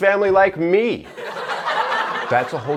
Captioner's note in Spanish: risas